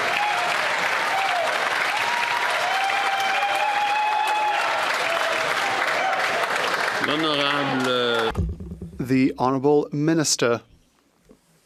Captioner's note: some Applause